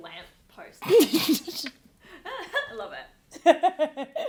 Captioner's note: laughing